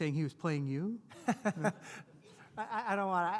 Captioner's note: laughs